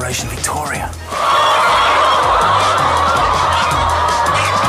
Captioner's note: chickens clucking